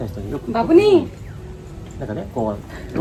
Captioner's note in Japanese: 子供の声